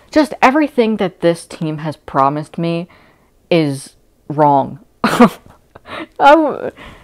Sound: laughing

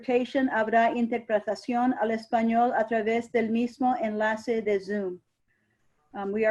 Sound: speaks in a foreign language

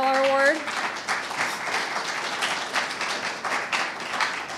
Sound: audience applauding

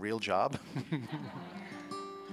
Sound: laughter

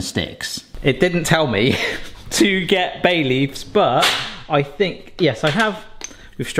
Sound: laughs

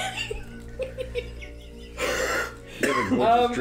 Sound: wheezing exhale

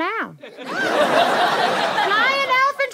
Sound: audience laughter

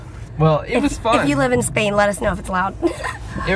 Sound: laughs

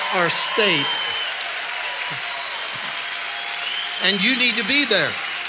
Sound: audience cheers

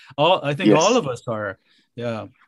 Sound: laughing

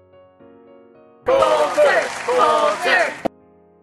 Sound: crowd chanting

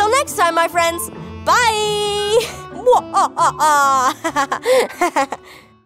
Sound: giggling

